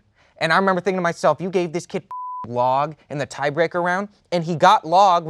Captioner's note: beep